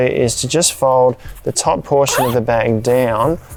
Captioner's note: zipper undoes